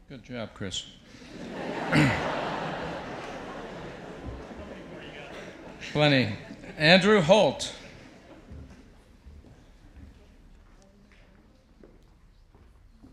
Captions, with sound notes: Good job, Chris. (audience laughs) - How many more you got? - Plenty. Andrew Holte.